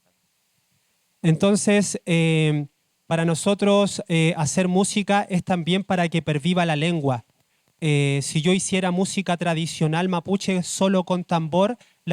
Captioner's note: speaking Spanish